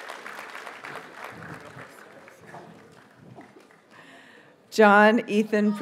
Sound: audience cheers and applauds

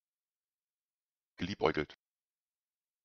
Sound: fast Pronunciation

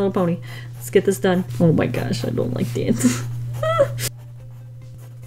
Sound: squeals

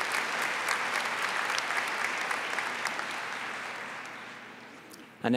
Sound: applause

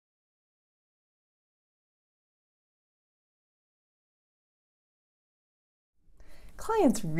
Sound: silence

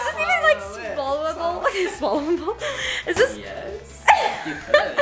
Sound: laughs

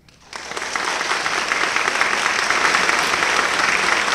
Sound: applause

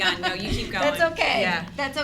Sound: laughing

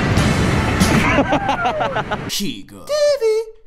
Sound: laughing

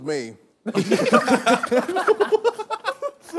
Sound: laughter

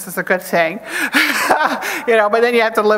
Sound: laughs

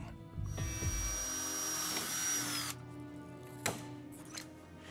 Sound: mechanic drilling

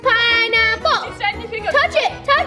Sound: mumbling

